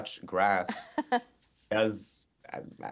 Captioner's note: chuckling